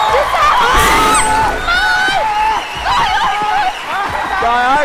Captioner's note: yelling, Clapping